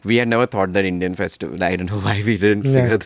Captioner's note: chuckles